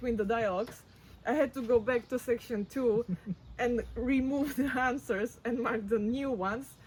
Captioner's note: laughs